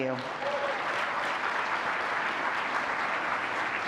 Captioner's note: audience applauds